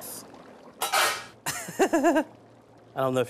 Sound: laughing

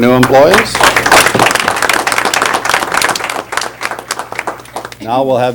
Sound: applause

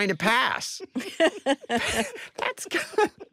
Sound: all laughing

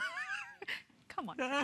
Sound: laughter

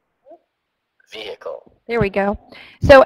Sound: voiceover

